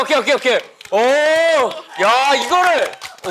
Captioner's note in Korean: 박수갈채